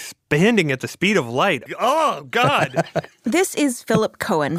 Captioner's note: laughs